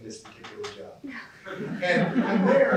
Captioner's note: laughter